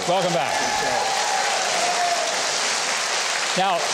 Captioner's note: audience cheers